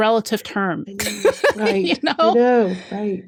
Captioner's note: laughs